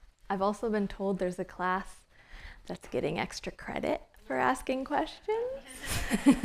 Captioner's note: laughter